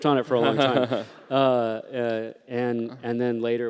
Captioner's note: laughter